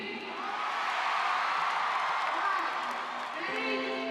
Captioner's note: shouts of "Yeah"